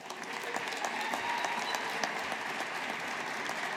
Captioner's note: audience applauding